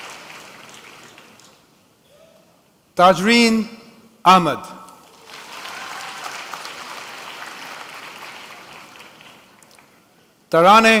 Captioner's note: applause